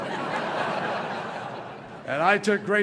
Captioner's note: laughter